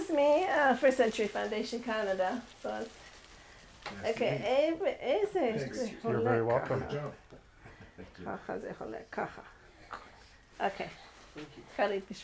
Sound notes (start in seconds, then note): 0.0 speaks in foreign language; 6.4 speaks in foreign language